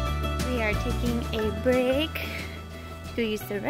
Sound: none

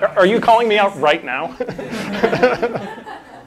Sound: laughter

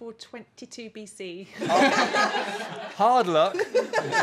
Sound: laughter

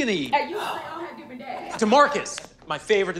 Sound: gasps

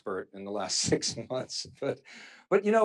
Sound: chuckles

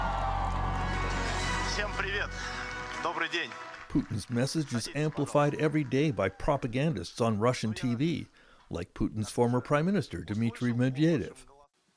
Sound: speaking russian language

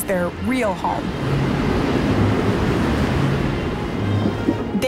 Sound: waves crashing

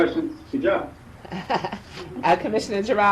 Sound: Madam chair laughs

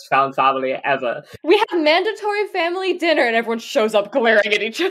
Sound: laughing

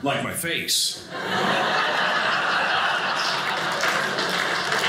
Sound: audience laughing; audience applauding

